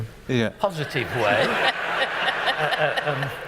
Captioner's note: laughter